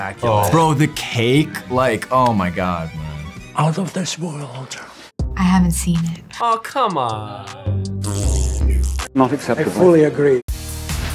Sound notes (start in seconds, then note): 7.1 disapproving sound